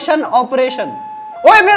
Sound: doorbell rings

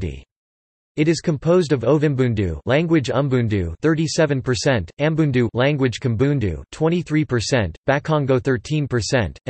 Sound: language Umbundu

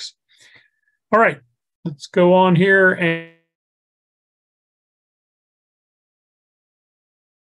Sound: microphone fades

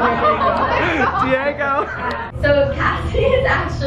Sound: laughing; laughs

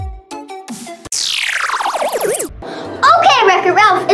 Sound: comical tooting; comical whirring

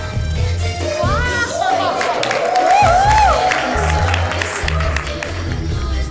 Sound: people cheering, clapping

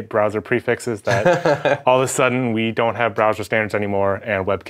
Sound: laughing

